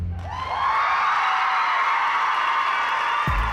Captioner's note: cheering and applause